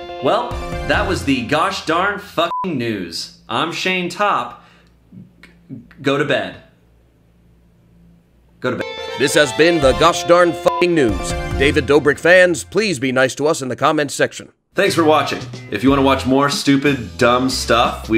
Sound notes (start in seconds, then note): 2.5 beep; 10.6 beep